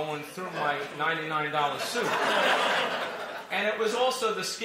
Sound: laughter

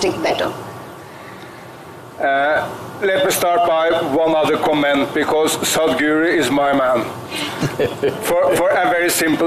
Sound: Sadhguru Laughs

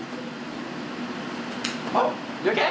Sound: slap

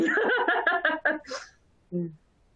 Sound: laughter

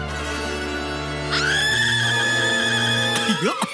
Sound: screaming

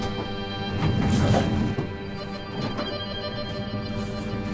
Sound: metal clanking

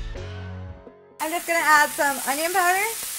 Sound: food sizzling

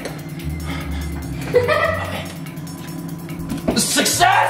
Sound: laughing

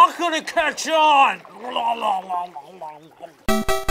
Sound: gurgling; game over music

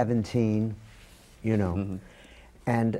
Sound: none

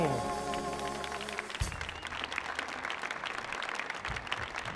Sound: audience applauds

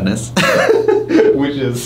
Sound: laughing

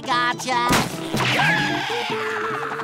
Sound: screaming

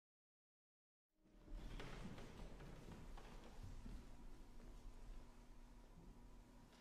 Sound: footsteps, rustling of papers

